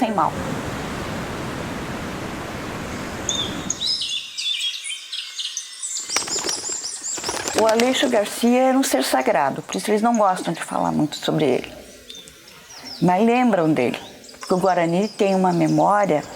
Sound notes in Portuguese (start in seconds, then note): 3.2 canto de pássaros